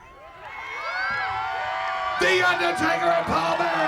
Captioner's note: crowd cheering